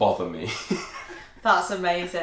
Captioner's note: laughter